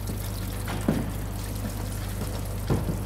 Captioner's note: quiet splashing